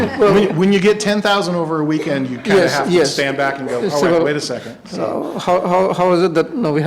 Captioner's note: laughter